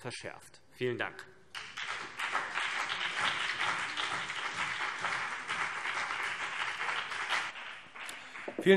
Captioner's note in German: Beifall CDU und BÜNDNIS 90/DIE GRÜNEN